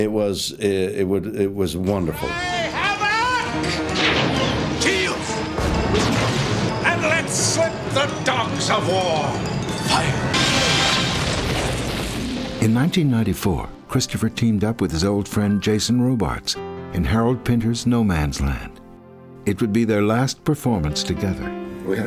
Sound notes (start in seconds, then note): 3.9 thrilling orchestral music; 10.3 lasers blasting